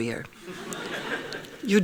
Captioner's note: laughing